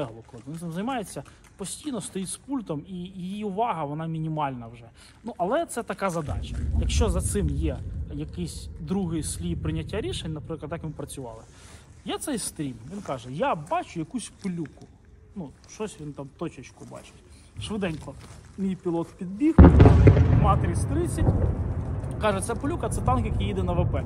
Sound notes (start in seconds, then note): 19.5 explosion